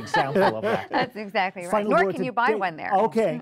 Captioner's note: laughing